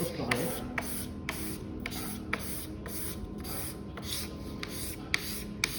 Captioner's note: charcoal scratching